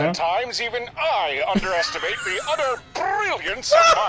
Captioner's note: laughs